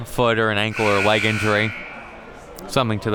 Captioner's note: buzzer blares